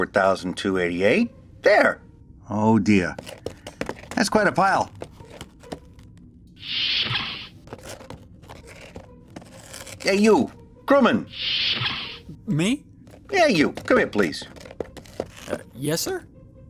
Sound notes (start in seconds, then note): 14.8 footsteps